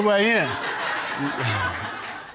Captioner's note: audience laughing; chuckles